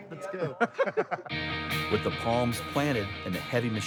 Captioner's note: laughing